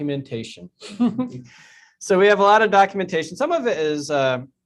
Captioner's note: chuckles